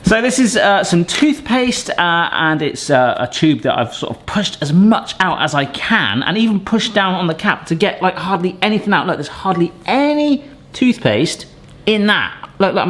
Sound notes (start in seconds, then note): none